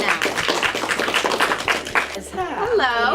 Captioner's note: applauding